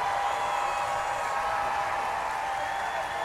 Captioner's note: applause